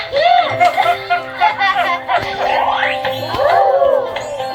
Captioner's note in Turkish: kahkaha